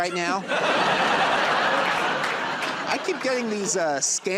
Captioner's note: laughter and applause